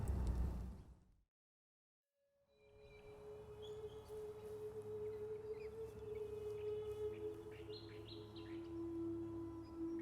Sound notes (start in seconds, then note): 2.2 gentle music; 2.8 birds chirping